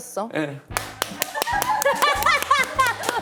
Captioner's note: seal clap